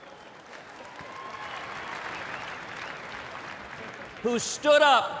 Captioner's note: applause, cheers